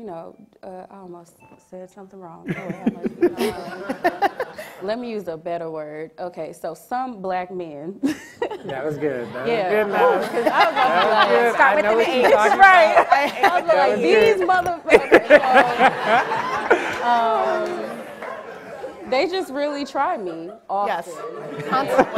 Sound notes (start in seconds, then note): 2.4 audience and panel laughs; 8.1 audience and panel laughs; 16.5 audience and panel laughing